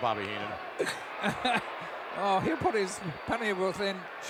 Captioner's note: laughs